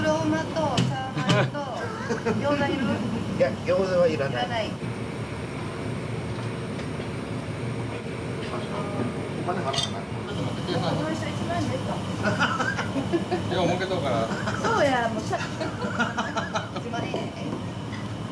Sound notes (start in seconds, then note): 12.2 laughter; 12.3 laughs; 15.3 laughter